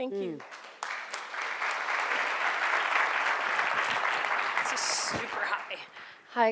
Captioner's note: audience applauding